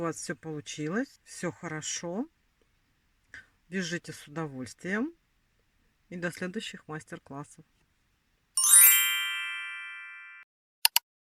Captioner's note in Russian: колокольчик